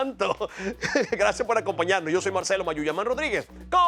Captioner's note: laugh